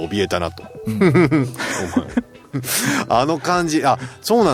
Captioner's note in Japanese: 笑い